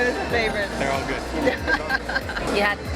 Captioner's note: laughs